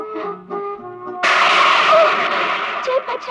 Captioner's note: thunder rumbling